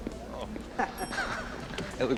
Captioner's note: both laughing